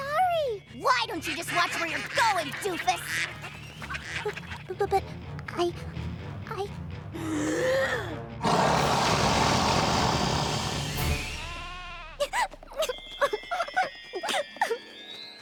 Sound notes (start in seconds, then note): 6.9 inhales deeply; 8.4 roars; 11.4 crying